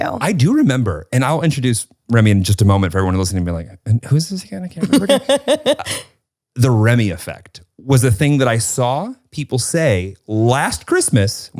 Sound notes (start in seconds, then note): 4.8 laughs